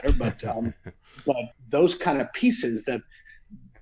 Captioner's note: laughs